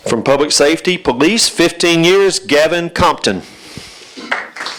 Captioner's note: applause